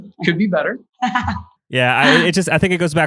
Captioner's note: laughs